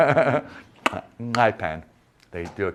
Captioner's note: clicking tongue